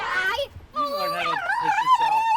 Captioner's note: squealing